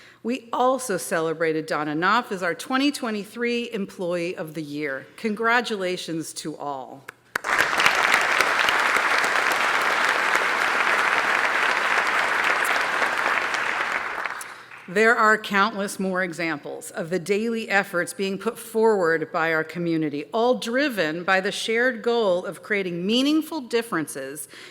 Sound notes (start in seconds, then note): 7.3 applause